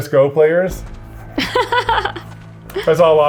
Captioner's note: laughs